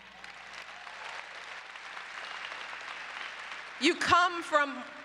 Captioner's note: applause